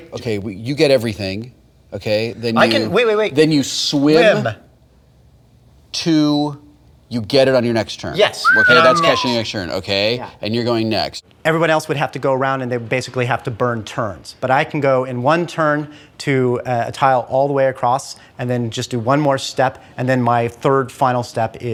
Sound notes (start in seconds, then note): 8.4 whistles